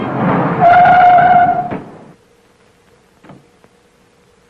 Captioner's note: tires squealing